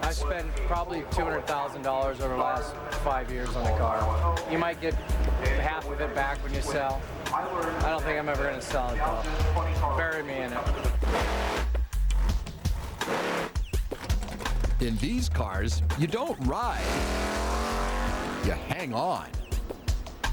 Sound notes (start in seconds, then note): 10.9 engine revving